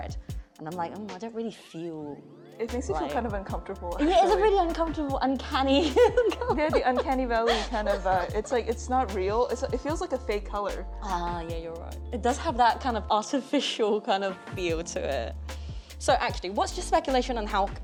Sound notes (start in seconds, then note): 5.8 chuckles